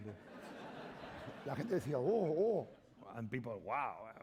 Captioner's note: laughter; speaking spanish